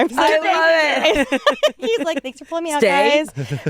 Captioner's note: all laugh